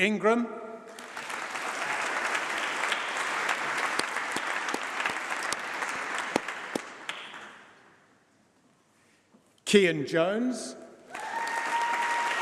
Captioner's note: applause; applause